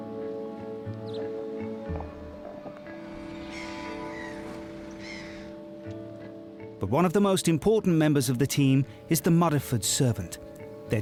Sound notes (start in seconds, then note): 0.7 birds cawing; 0.7 bright music